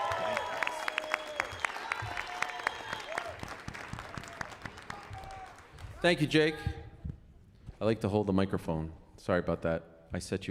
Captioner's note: cheers and applause